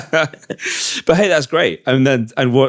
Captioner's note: laughing